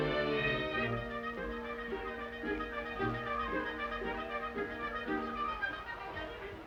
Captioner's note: upbeat music; people chattering